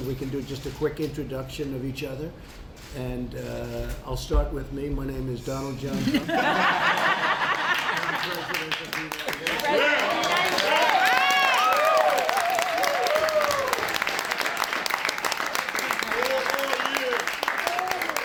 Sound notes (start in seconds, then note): 5.9 laughter; 11.1 applause